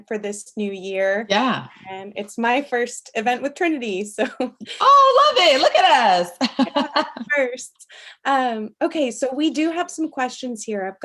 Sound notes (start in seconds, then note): 6.4 laughing